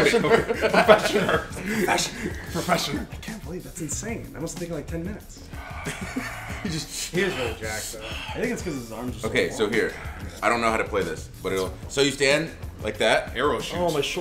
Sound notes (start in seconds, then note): 5.4 laugh